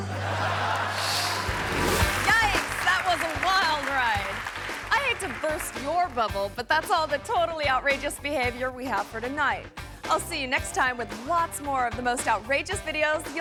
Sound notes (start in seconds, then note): 0.0 audience laughing; 0.7 air whooshes; 3.8 audience clapping